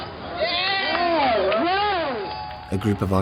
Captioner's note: cheering and applause; voiceover